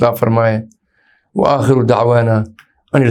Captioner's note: Arabic